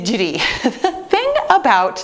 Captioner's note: laughs